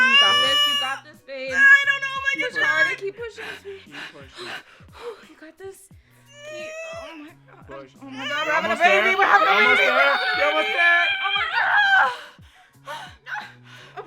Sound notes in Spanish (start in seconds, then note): 0.0 Grita; 8.2 Sigue gritando